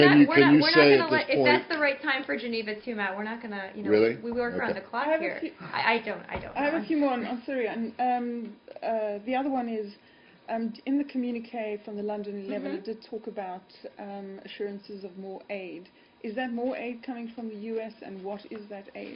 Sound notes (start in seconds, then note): 6.1 laughter